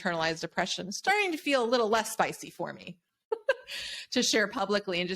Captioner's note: laughs